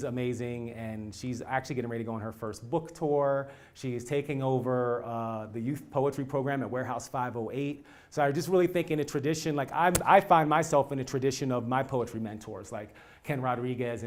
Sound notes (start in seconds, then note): none